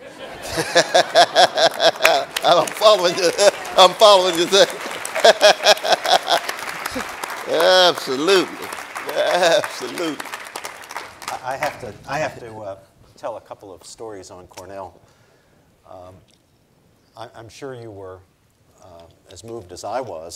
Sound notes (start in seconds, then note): 0.3 audience and Cornel laughing; 5.0 audience applauding; 5.0 laughs